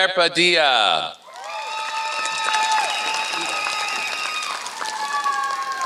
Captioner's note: applause